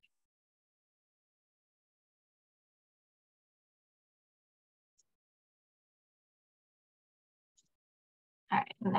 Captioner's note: silence